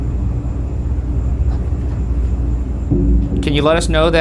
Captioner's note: item mysteriously tapping